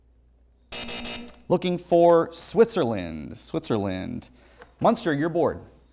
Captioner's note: buzzer